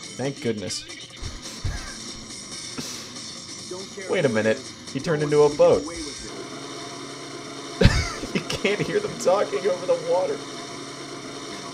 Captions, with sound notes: Thank goodness [exhales] Wait a minute He turned into a boat [laughs] You can't hear them talking over the water